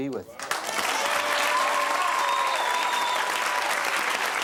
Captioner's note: audience applauding